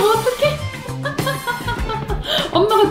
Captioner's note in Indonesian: tertawa